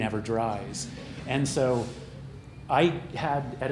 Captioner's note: chuckling